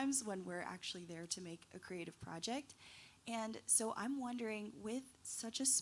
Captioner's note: none